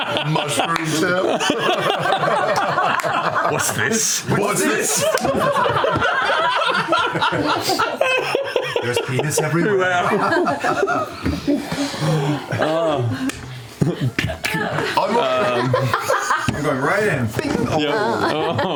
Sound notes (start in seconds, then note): 1.7 laughter; 13.8 imitated slapping